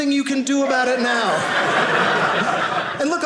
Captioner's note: audience laughing